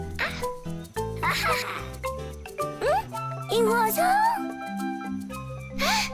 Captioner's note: both grunt; laughs; speaks in foreign language